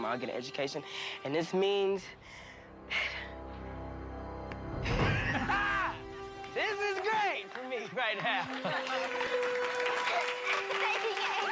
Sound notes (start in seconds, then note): 5.0 laughs; 9.3 applause